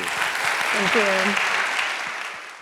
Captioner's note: audience applauds